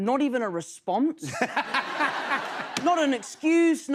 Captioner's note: laughter